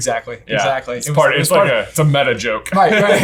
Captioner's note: laughing; laughs